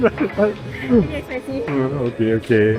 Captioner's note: laughs